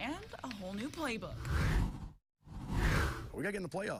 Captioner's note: air whooshes